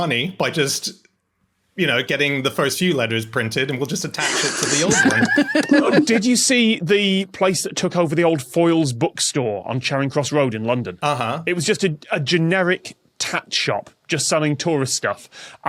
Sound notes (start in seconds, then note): 4.2 laugh